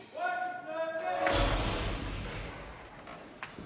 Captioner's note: men yelling in hallway; metal door clanging